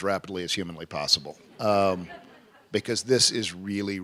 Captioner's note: laughter